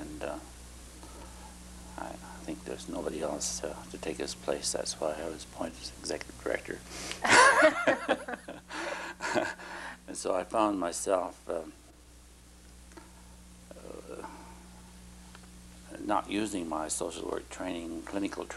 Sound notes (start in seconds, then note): 7.2 laughter